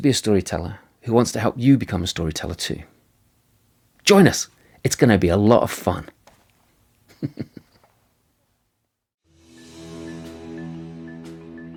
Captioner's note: laughing